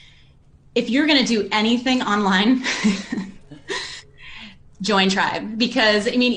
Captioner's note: laughs